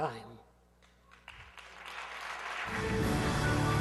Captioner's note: aplausos